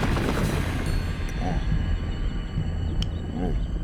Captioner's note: grunts softly